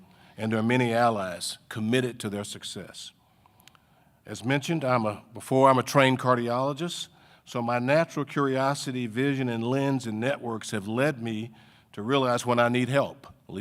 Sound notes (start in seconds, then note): none